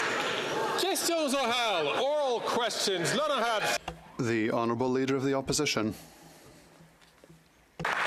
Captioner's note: some Applause